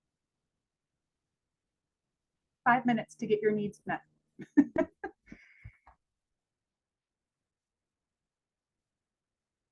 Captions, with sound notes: Five minutes to get your needs met. (laughs)